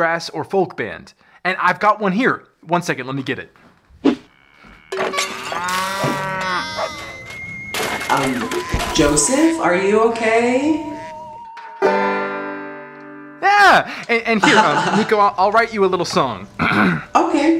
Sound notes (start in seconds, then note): 4.2 loud noises and crashes; 11.7 strum